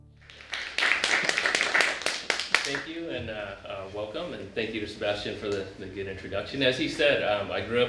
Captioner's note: applaud